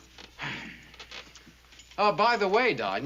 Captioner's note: sighing